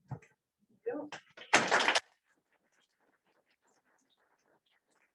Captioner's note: audience clapping